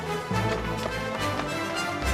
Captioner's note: footsteps running